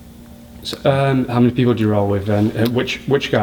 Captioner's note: voiceover